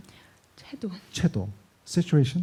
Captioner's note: speaking korean